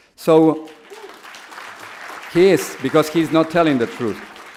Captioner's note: audience applause